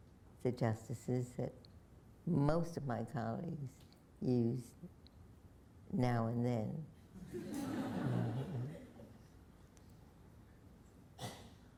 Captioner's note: laughter